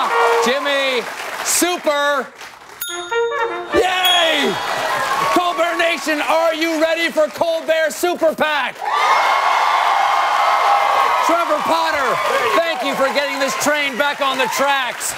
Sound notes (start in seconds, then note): 0.0 music, cheers; 8.6 cheers